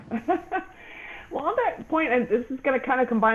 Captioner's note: laughing